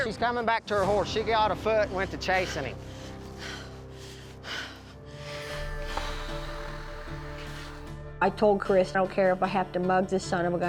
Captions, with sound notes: SHE'S COMING BACK TO HER HORSE. SHE GOT ON FOOT AND WENT TO CHASING HIM. [PANTING, BREATHING HEAVILY] I TOLD CHRIS, I DON'T CARE IF I HAVE TO MUG THE SON OF A GUN